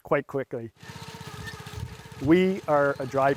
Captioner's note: machine whirring